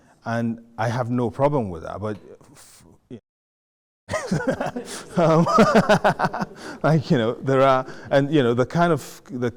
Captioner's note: laughing